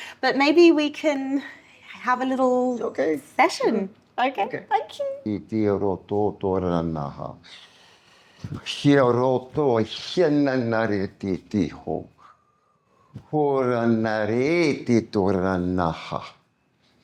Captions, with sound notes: But maybe we can have a little-- OK. Session. OK. Thank you. [NON-ENGLISH SPEECH]